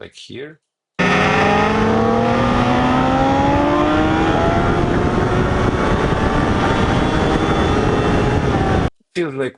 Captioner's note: tires screeching